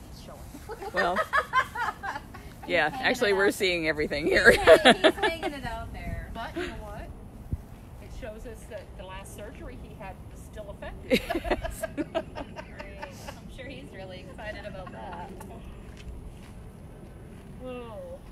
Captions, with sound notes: Yeah, actually we're seeing everything here. [Laughter]